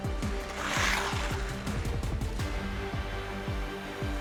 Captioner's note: ice scrapes